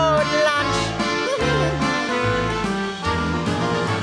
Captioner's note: laughs